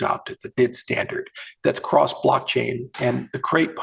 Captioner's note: murmurs